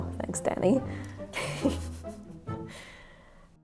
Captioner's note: laughs